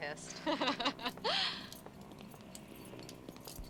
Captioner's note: both laughing